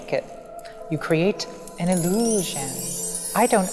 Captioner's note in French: carillons